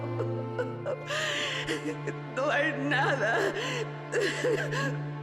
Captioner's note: crying